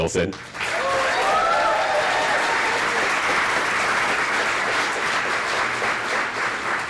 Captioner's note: applause